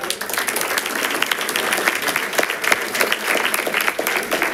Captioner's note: audience applauding